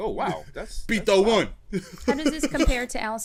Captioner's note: laughs